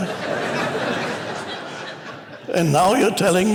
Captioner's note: congregation laughs